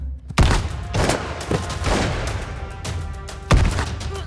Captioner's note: gunfire echoing